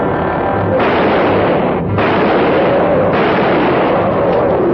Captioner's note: gun firing